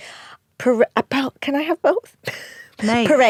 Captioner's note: laughs